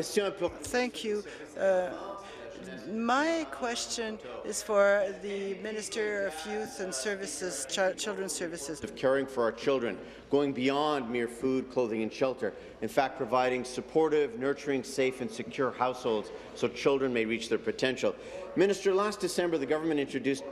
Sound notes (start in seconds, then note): 2.8 speaking in French